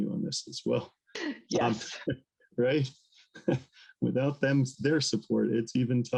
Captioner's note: laughter